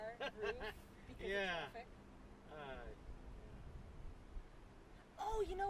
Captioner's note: laughing